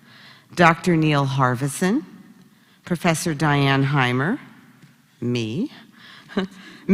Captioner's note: laugh